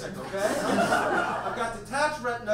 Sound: audience laughs

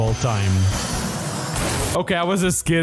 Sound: plane crash

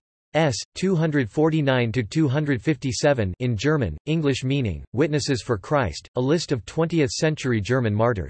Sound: in German

